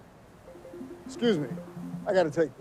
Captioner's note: phone dings